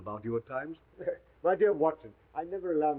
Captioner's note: chuckles